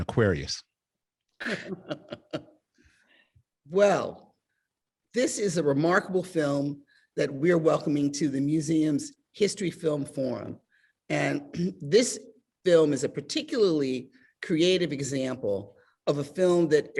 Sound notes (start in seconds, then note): 1.4 laughing